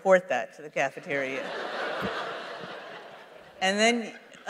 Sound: laughter

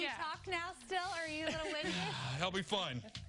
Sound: laughter

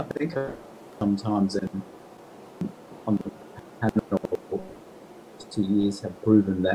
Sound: audio distorting

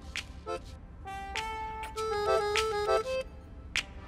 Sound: pecks

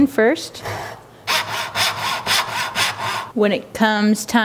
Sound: rasping

